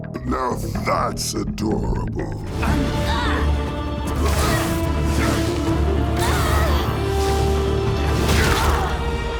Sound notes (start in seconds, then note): 2.1 dramatic music; 2.7 Eve grunting